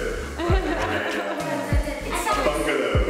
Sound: laughs

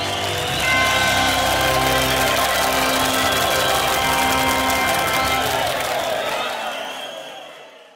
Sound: loud cheering and applause

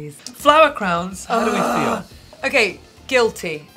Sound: Alexa groans

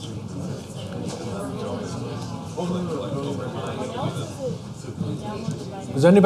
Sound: chatter

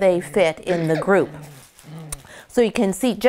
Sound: Cinnamon yelps

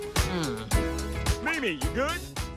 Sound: groans

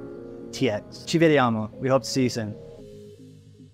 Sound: speaking Italian

